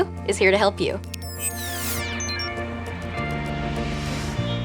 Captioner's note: beeping